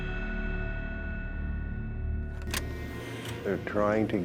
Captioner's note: eerie music; button clicks